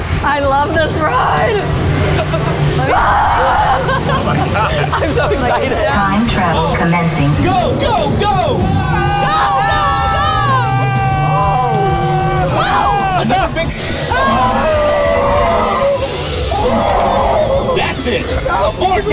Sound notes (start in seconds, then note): 1.4 grunts with joy; 5.5 laughing; 6.4 automated Voice; 13.6 pressurized air hissing; 13.8 screaming; 18.0 automated Voice